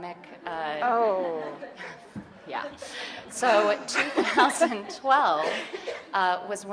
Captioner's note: audience chuckling